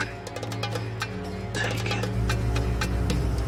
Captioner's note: quietly